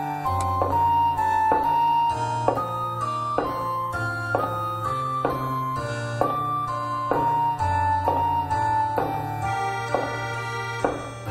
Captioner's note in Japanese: 足音：コツコツコツ･･･